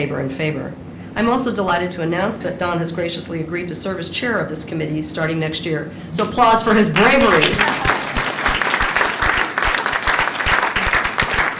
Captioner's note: applause